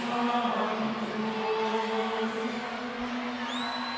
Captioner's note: none